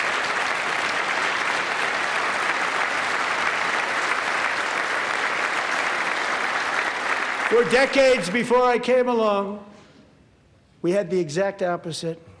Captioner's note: applause